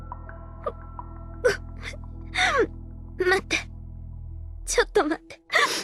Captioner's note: sob